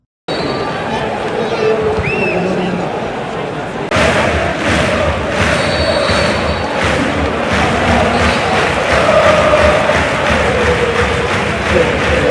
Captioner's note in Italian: Applauso